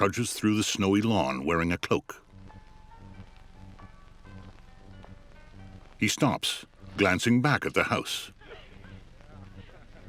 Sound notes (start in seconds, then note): 6.9 distant laughter